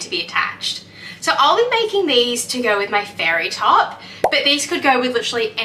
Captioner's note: pop sound